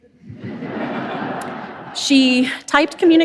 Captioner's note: audience laughs